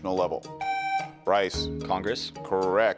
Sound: buzzer beeps

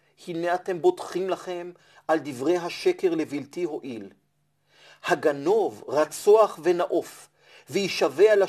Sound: Hebrew

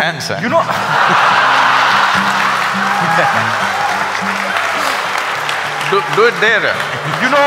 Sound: laughter/Applause

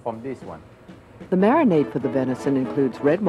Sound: voiceover

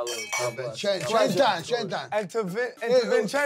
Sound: speaking Italian

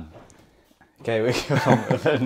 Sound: laughs

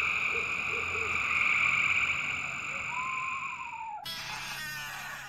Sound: crickets singing

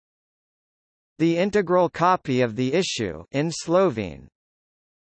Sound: in Slovene

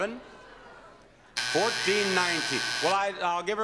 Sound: buzzer beeps

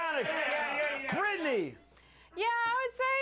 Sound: audience cheers

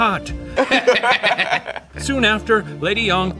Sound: both laugh

